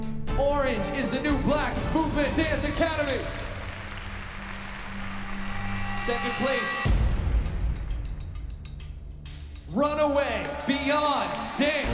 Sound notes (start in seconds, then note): 3.8 cheering